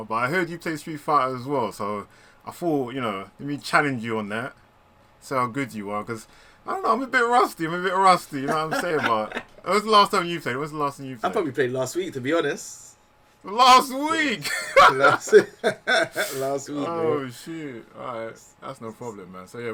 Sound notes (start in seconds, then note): 8.3 laughs; 14.4 laughter